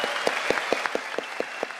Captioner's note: applause